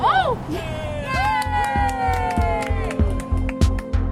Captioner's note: group cheers